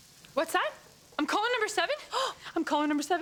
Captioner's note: gasps